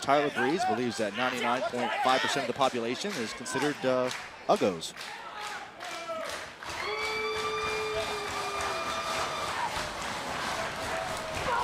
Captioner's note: crowd cheering